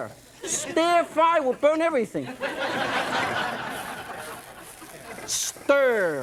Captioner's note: audience laughs